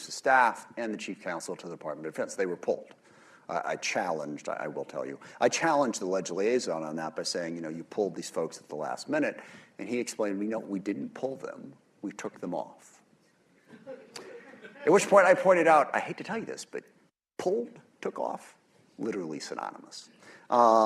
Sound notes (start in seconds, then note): 13.6 laughter